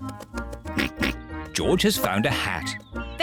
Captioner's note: oinks